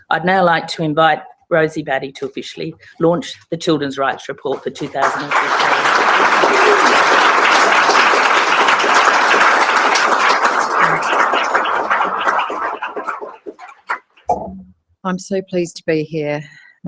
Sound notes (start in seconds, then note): 6.2 applause